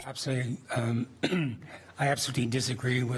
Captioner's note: clears throat